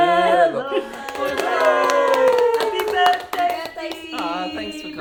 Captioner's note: people clap